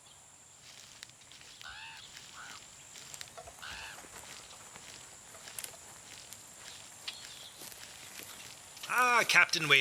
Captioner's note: crows calling